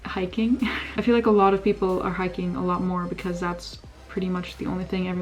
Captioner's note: laugh